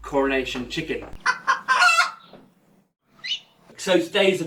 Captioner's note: chicken noise